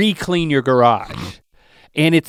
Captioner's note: Rhett snorts